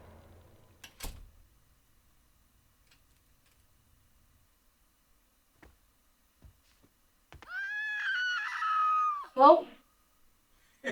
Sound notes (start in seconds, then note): 0.1 door clicking; 7.4 Linda screaming